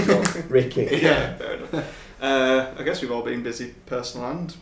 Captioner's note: laughs